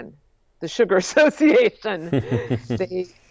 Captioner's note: laughs